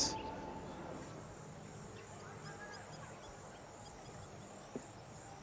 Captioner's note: birds chirping